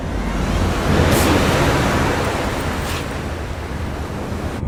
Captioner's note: waves crashing